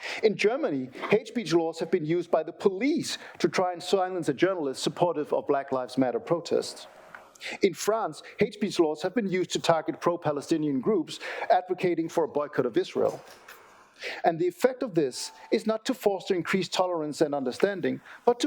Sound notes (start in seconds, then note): none